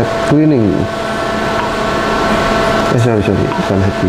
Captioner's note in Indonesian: suara touch screen